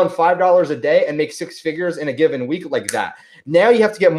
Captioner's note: snaps